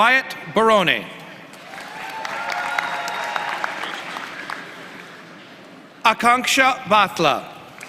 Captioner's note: applause